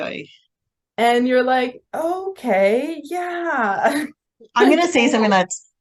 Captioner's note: laughs